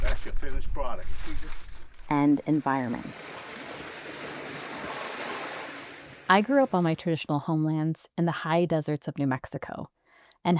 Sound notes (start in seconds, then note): 2.2 water roaring